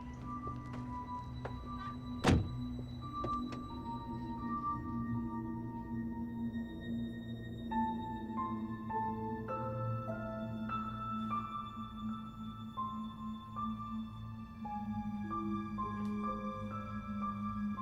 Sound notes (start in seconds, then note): 0.2 suspenseful music; 1.2 car door thuds; 3.4 suspenseful music